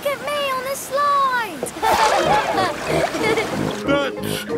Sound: laughing

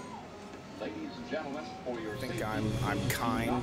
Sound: voiceover

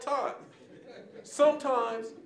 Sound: audience chuckling

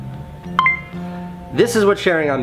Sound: notification beeps

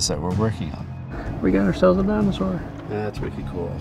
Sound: voiceover

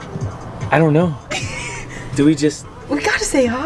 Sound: woman giggles

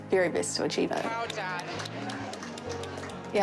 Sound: applause

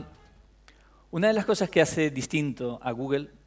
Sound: speaking spanish

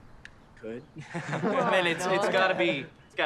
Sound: nervous laugh

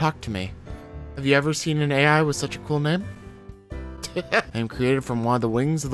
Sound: laughs

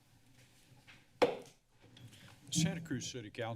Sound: bangs gavel

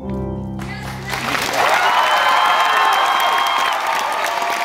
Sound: applause and cheer

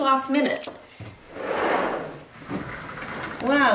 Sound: door slides open

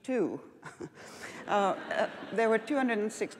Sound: laughs

